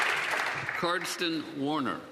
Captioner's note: some Applause